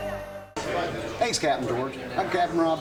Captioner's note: patrons chattering